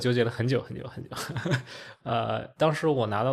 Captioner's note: laughs